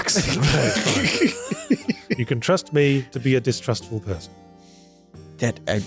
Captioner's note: laughter